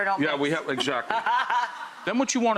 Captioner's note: laughing